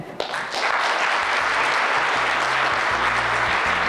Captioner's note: audience claps